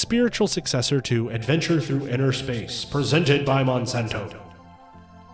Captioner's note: in booming, echoing voice